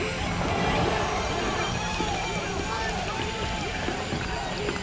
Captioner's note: cadets Howling In The Distance